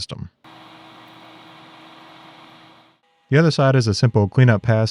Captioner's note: machinery whirring